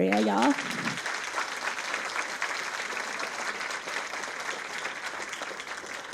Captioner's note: audience applauds